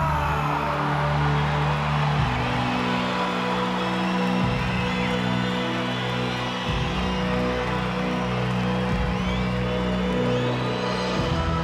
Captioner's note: applause